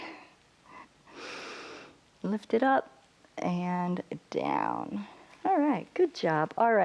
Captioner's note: inhales